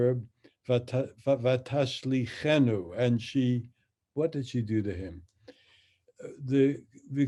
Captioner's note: speaks in Hebrew